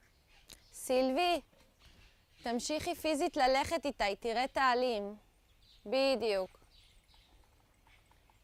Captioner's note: hebrew